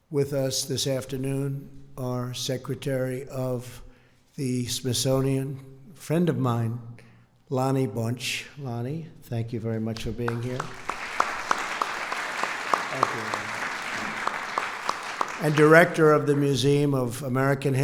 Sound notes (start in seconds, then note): 10.6 applause